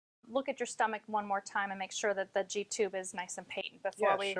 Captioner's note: voice cuts out